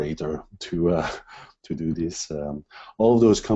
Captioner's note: laughs